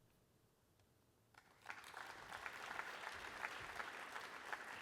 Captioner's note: applause